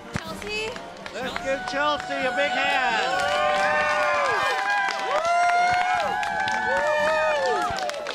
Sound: clapping and cheering

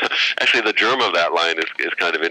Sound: laughter

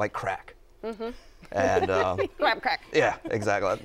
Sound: laughter

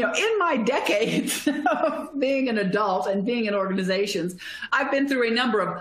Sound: laughter

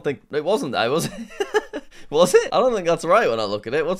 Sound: laughs

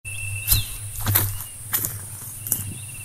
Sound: footsteps

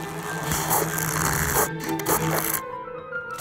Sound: growling

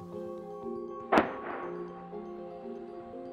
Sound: bang

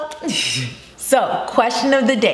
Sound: laughs

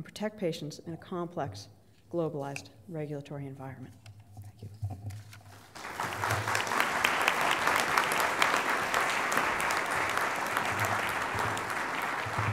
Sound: applause

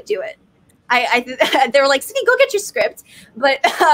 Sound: chuckles

